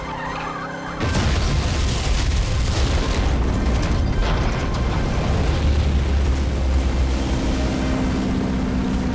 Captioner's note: explosion